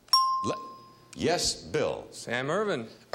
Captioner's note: bell dinging